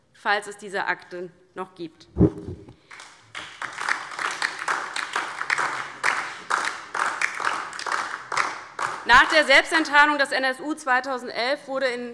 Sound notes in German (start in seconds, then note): 2.8 Beifall DIE LINKE